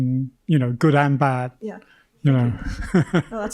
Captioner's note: chuckles